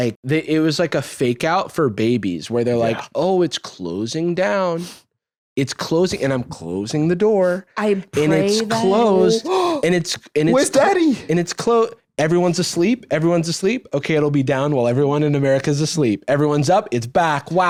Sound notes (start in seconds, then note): 9.4 gasps